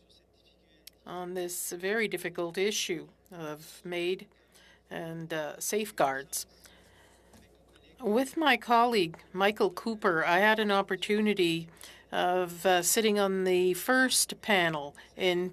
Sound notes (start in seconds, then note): 5.5 speaking French